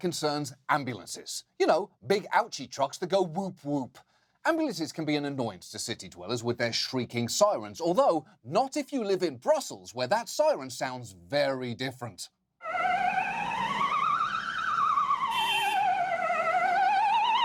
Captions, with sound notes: concerns ambulances. You know, big ouchie trucks that go woop-woop. Ambulances can be an annoyance to city dwellers with their shrieking sirens. Although not if you live in Brussels, where that siren sounds very different. (PLAYFUL SIREN WAILS)